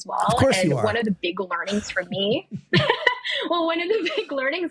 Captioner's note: laughing